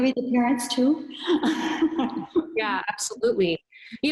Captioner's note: laughs